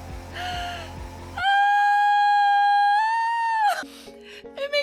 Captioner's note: gasps